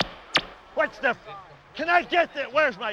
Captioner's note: beeping